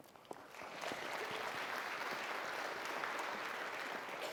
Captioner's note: crowd clapping